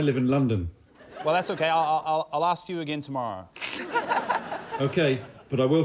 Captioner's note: laughter